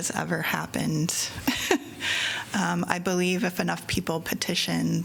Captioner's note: laughter